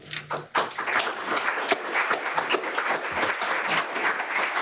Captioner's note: audience applause